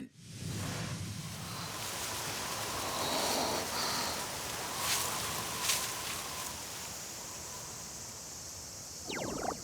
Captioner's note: sounds of blowing wind